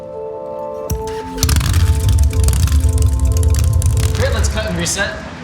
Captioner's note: engine starts